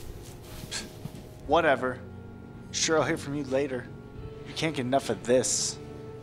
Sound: snorts

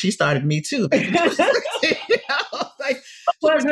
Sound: laughter

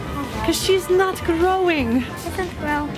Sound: none

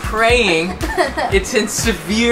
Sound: laughs

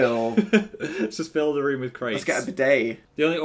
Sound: laughing

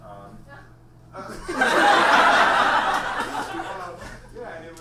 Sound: audience laughs

